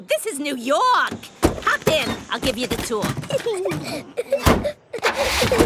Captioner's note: Peppa and George laughing